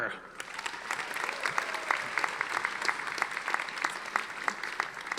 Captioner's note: audience applauding